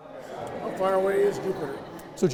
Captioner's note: people chattering